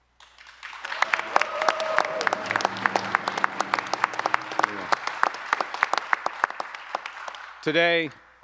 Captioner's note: applause